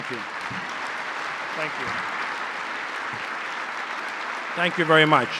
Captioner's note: applause